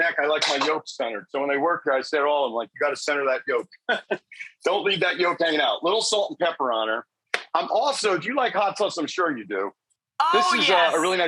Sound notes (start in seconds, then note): 3.6 laughs